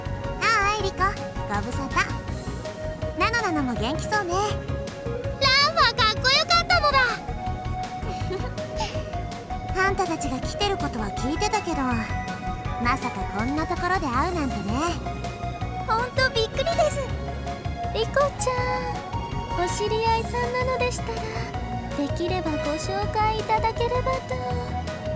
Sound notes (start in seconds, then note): 8.0 giggle